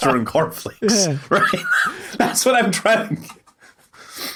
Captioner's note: wheezes